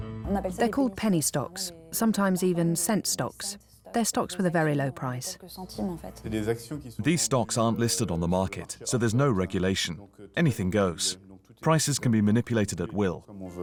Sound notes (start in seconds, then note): 5.5 non-english speech